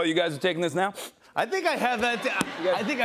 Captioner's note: laughter